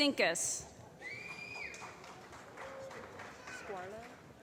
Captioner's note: applause